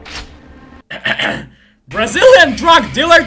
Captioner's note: ahem ahem